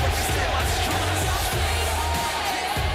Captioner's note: cheers and applause